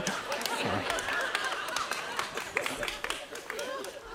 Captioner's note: audience laughs